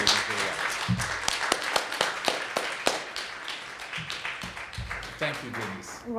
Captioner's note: clapping